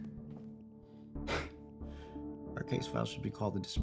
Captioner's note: Kenny scoffs